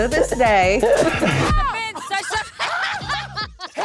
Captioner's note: laughing